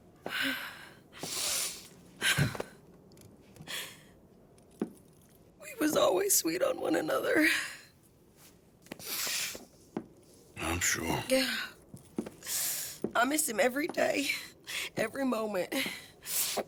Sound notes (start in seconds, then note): 7.3 sits and sobs